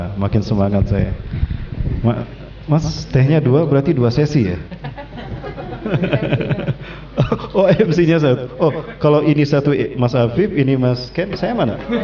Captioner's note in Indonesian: Laughing; Laugh